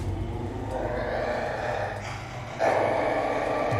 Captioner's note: growl